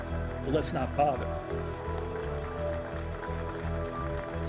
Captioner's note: applause